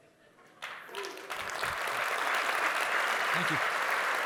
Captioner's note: audience applauds